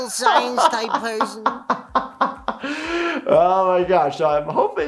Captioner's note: doctor laughs